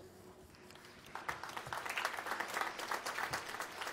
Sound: applause

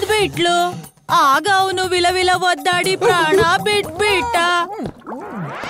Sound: retching

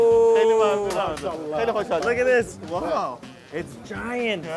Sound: speaking foreign language

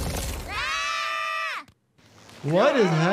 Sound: screaming

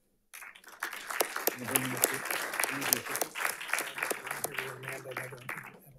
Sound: audience applauding

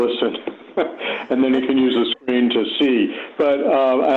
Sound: laughter

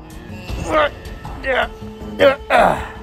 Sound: struggling Sounds

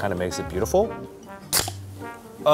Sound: can opening

